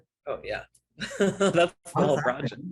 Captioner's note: laughs